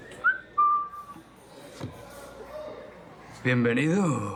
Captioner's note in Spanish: Silbidos